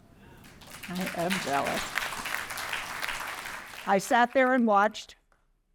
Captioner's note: applause